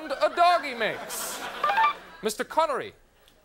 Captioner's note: beeping